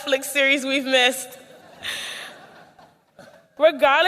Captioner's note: laughter